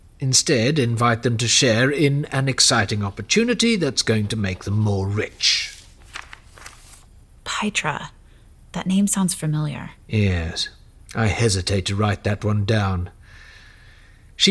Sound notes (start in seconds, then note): 5.0 paper sliding